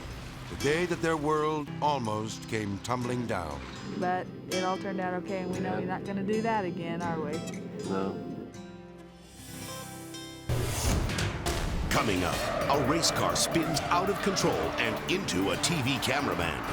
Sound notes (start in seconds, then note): 8.7 gentle music; 11.4 dramatic whoosh; 11.8 car skidding